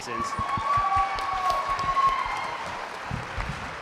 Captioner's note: applause